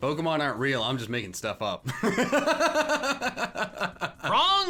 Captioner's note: laughs